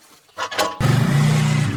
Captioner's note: clanking; engine roaring